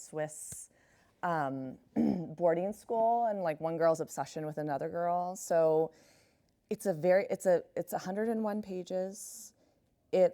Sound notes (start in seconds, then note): 1.9 clears throat